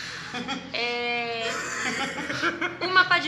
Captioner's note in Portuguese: risadas